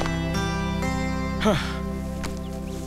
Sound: sighs

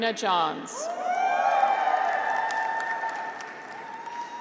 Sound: graduates cheer

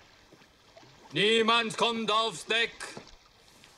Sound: in German

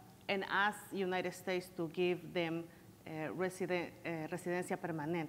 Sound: foreign language

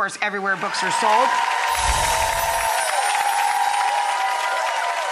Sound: audience cheering

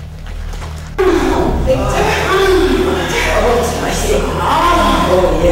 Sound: moaning sounds

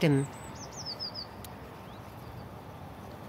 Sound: birds chirping

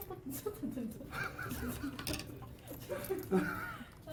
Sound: couldn't hold her laughter

